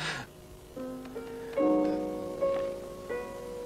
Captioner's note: tapping